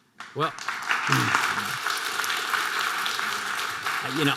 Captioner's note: audience applause